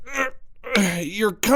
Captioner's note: moaning in pain